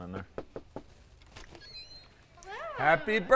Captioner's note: door knocking